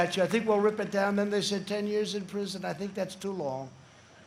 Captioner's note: applause